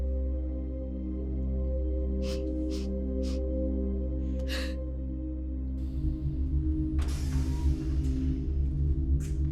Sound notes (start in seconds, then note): 2.4 crying; 2.4 somber orchestral music; 7.3 humming